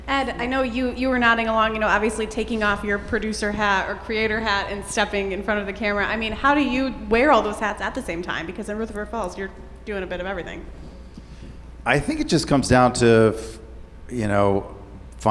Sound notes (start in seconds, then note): none